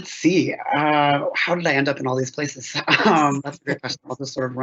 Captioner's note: chuckles